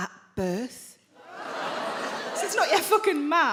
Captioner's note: audience laughing